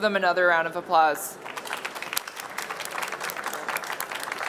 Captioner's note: applause